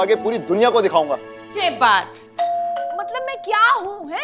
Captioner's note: Doorbell ringing